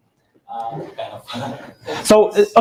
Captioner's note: chuckles